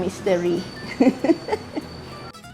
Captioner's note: laughs